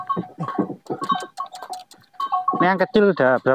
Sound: laughs

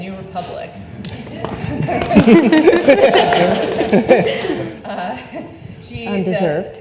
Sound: audience applauds; panelists laugh

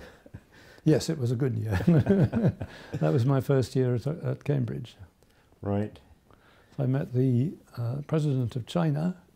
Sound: laughs

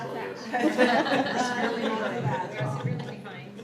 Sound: people laughing

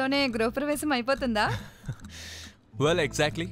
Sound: chuckles

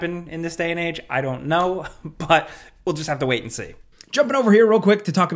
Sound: laughs

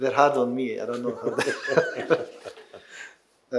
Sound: laughing

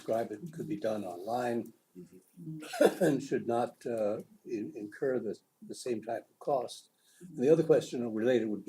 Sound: cough

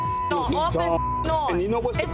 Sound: beeps

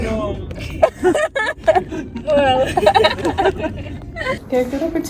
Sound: laughter

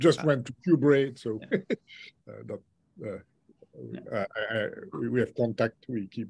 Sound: chuckles

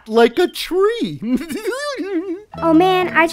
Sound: laughing

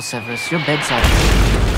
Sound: explosion

